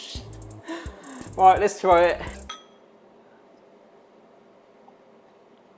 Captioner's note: glasses clinking